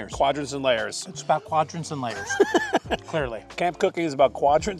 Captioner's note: laughing